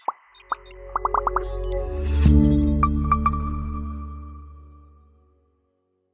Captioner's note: bubble pops